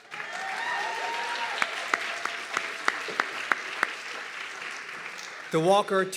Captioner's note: audience clapping and cheering